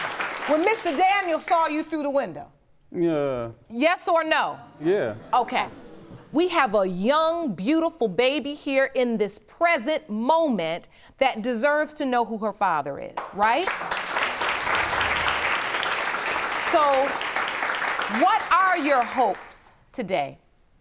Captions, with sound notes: when Mr. Daniel saw you through the window? Yeah. Yes or no? Yeah. We have a young, beautiful baby here in this present moment that deserves to know who her father is, right? (APPLAUSE) So, what are your hopes today?